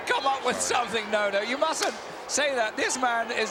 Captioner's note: Yokozuna claps